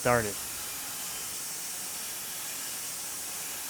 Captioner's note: machine whirring